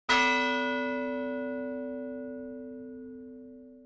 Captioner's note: bell chimes